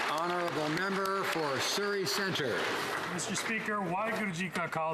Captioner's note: some Applause